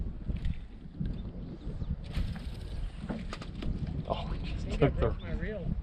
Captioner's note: chuckling